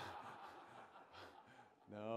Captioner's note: laughter